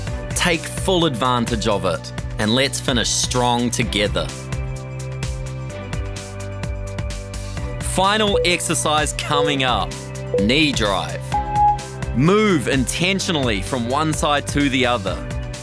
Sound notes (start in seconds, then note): 10.3 timer beeping